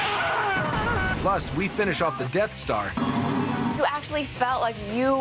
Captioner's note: screaming; humming